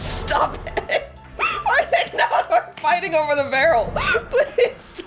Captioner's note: laughing